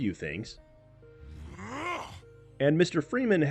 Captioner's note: Winston growl